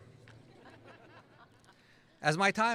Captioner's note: laughing